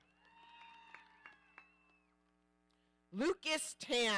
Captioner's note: audience cheering